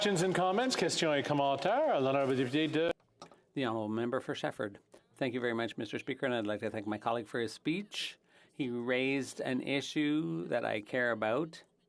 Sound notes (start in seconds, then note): 5.9 speaking French